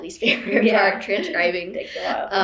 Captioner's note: laughter